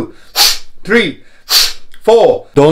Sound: whistle of air

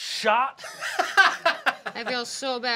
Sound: laughs

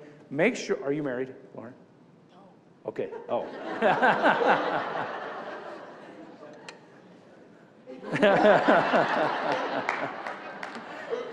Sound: crowd laughs

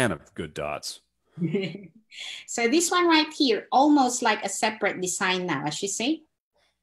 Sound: chuckles

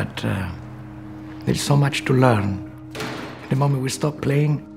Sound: door clacks

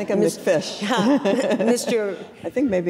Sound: all giggling

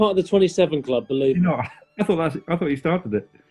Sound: laughs

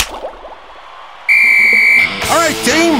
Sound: whistles

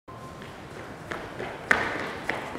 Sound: footsteps

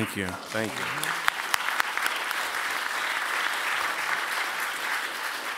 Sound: applause

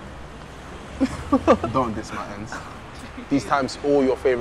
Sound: laughs

